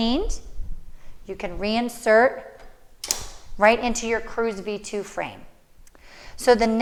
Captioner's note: click sound